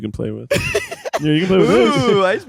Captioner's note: laughing